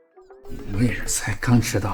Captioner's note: cough